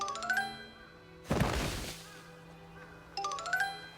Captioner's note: thud/ Fall!